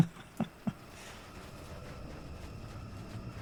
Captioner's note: laughs